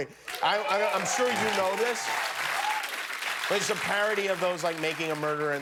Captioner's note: cheers and applause